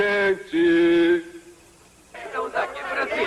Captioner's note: laughter